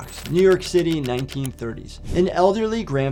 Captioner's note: typewriter clicks